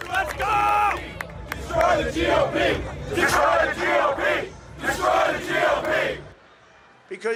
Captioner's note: cheers and applause